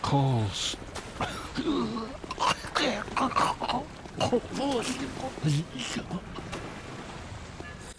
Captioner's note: heavy throaty cough